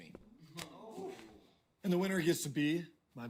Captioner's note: ooh-ing